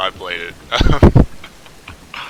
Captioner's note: laughs